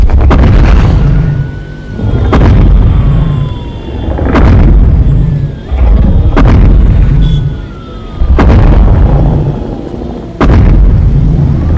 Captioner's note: Godzilla stomping with sirens in distance